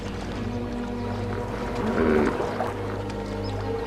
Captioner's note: grunts